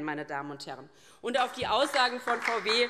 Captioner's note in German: Beifall DIE LINKE